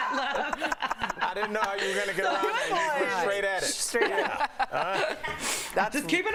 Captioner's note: laughter; laughter